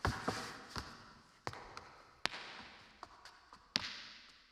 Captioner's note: shoes clacking